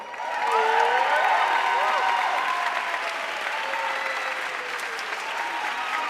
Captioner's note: audience cheering and applauding